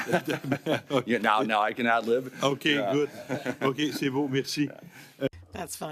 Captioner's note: laughter